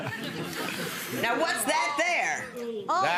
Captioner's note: audience laughs